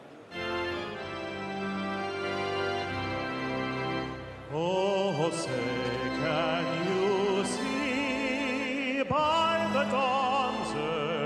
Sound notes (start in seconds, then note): 6.6 speaking French